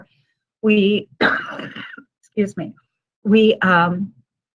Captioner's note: coughing